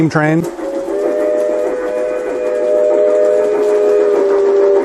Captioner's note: sound of steam train whistle